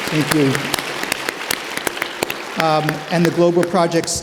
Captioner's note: audience applauding